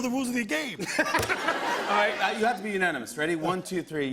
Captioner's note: laughter